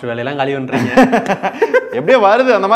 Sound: laughs

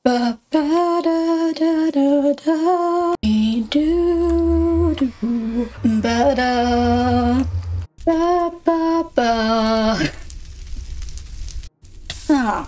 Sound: humming

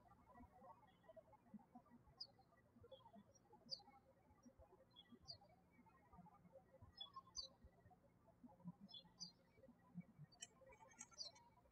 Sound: birds chirping

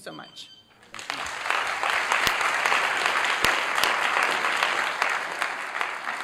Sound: applause

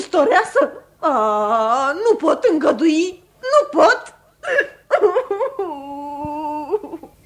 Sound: crying

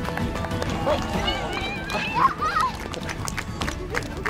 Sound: cheering

